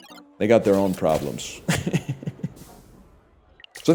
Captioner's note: chuckles